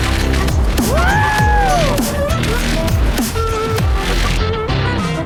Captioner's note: whooping; upbeat electronic music